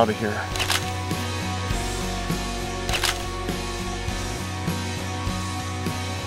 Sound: sound of camera taking photos

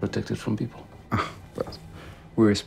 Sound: scoffs

